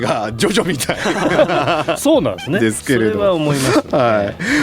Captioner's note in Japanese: 笑い